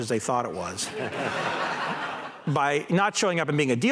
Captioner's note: laughter